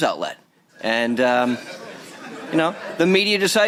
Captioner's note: laughter